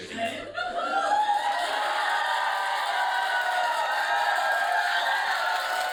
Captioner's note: audience cheers uproariously